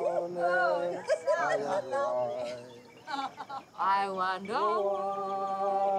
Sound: laughing

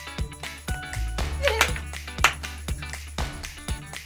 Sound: clap !!

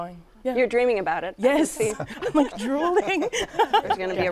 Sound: laughs

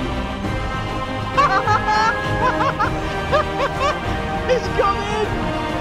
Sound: Hammond laughing

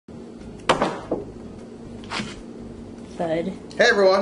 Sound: frozen meat bangs

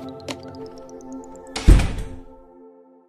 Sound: door shuts

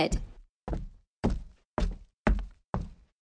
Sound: footsteps

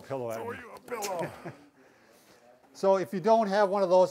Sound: laughs

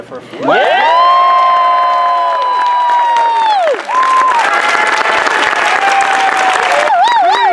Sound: cheers

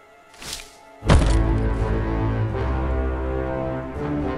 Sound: heavy thud

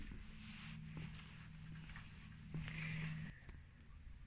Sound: boat engine noise in the background and footsteps

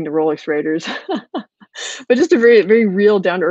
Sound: laughing

